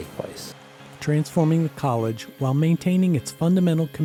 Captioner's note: voiceover